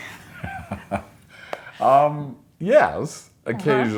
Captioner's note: both chuckling